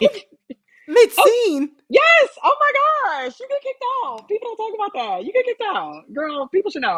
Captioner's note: laughter